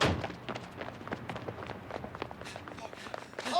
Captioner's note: breathing heavily